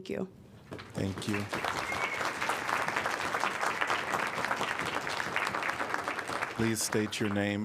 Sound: applause

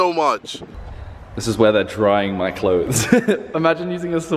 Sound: chuckling

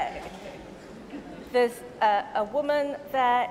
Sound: laughter

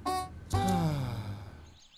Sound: sigh

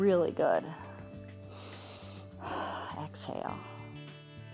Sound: inhales and exhales

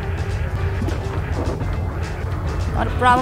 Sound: door open go uh oh

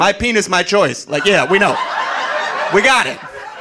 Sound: audience laughing

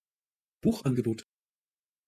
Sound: fast Pronunciation

